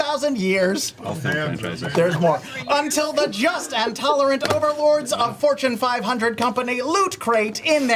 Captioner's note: robot voice